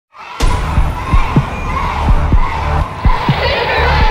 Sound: chanting and cheering

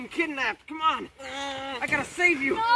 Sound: moans aggressively

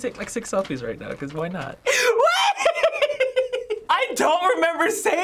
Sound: laughing

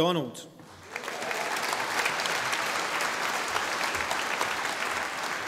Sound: audience applauding

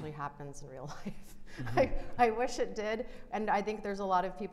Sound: chuckles

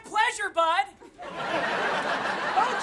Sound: laughing

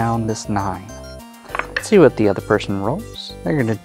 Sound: dice clattering

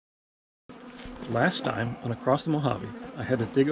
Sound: bees buzzing

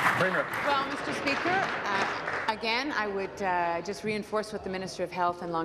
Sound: applause

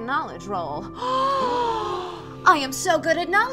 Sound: gasps

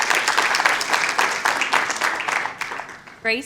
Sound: applause

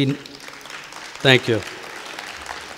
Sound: audience applauding

